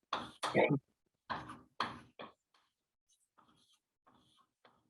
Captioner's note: chalkboard tapping loudly